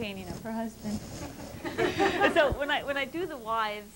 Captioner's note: laughter